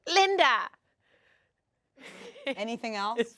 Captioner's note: chuckles